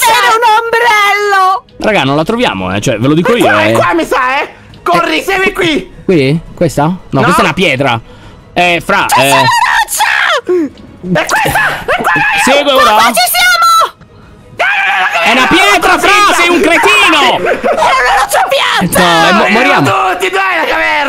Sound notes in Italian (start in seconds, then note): 11.3 urlando; 14.5 urla